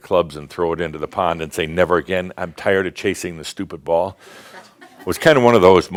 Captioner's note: a few chuckles